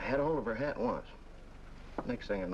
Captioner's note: none